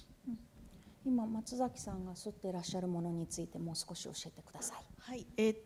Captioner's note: speaking japanese